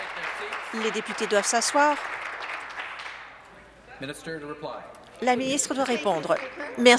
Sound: applause

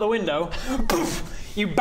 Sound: boof!

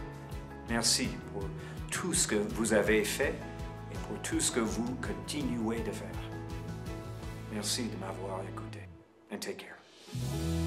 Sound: person speaking in French during this segment

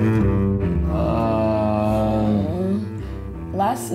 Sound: groans

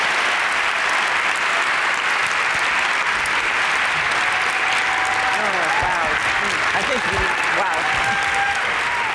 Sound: applause

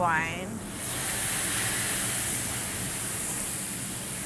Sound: pan sizzling

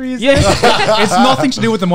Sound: all laugh heartedly

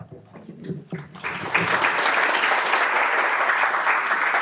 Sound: audience applause

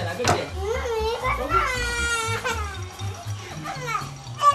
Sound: crying

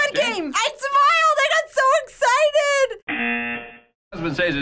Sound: buzzer

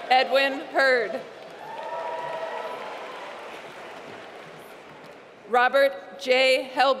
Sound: applause

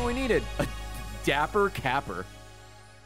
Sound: laughs

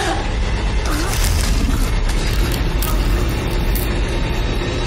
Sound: bones cracking

